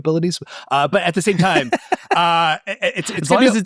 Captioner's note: laughing